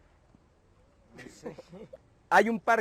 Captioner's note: lazy laugh